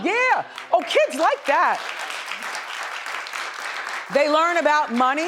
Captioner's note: audience applauds